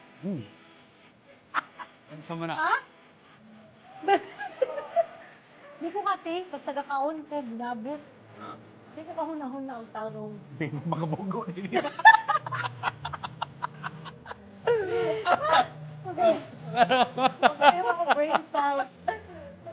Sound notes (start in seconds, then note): 1.6 laughs; 4.0 laughs; 10.7 laughter